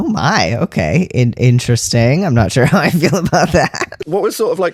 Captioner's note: laugh